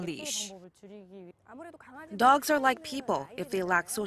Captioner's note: Korean